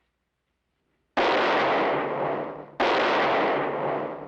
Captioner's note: gunshots